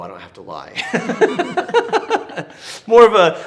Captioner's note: both laughing